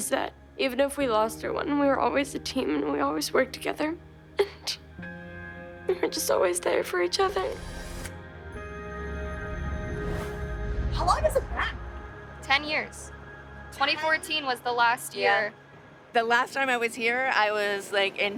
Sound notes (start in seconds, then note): 3.7 crying